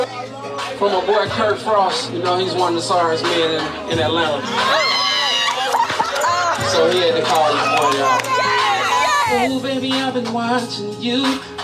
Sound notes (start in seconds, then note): 4.4 scream laughter